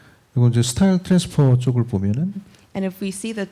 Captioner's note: speaking korean